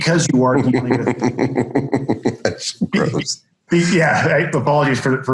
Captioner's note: laughing